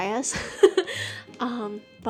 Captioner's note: laughing